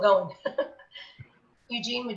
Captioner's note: laughs